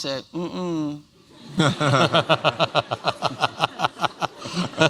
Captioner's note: laughter